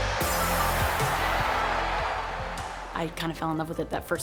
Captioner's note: crowd cheers